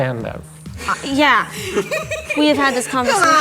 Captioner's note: giggling